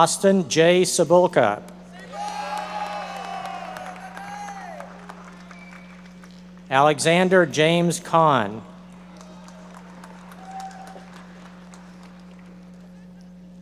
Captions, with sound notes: Austin J. Cibulka. (audience members cheering and applauding) Alexander James Conn. (audience members applauding)